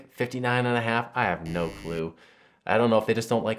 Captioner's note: buzzer buzzes